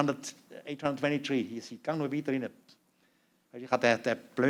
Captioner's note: non-english speech